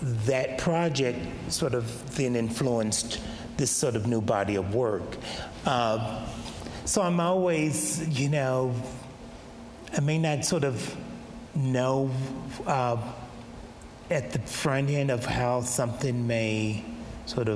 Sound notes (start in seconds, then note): none